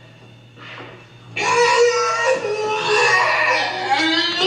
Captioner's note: creepy yelling